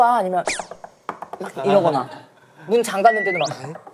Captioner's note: infinite knocking